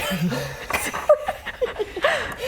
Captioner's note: laughing